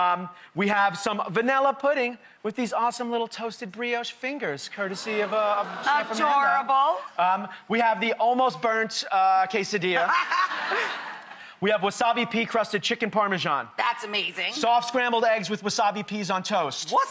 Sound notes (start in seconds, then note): 10.0 audience laughs